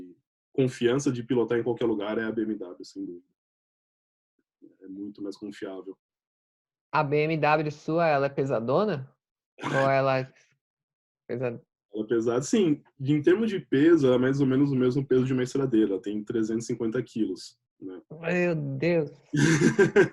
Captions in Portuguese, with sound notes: Confiança de pilotar em qualquer lugar é a BMW sem dúvidas. É muito mais confiável. A BMW sua ela é pesada? (risos) Sim! Em termos de peso ela é mais ou menos o mesmo peso de uma estradeira. Ela tem 350 kg.